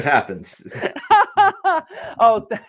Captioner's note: laughing